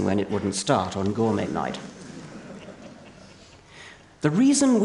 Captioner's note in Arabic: ضحك